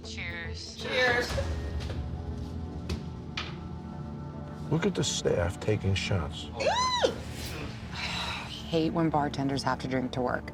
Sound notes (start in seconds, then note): 6.8 squeals